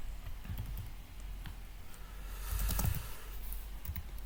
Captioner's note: typing noise